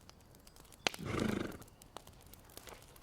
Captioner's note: grunting